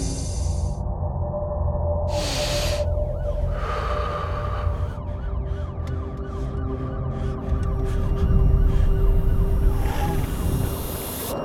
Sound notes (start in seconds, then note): 2.1 deep breathing; 4.2 distant sirens blaring